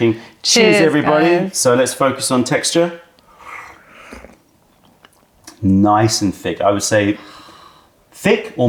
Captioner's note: sips tea